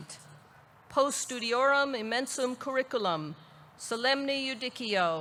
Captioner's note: speaks in foreign language